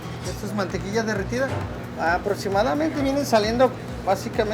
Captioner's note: foreign language